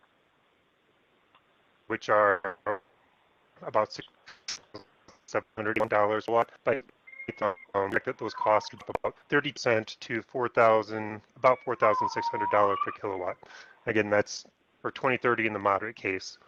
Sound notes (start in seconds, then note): 3.6 audio glitch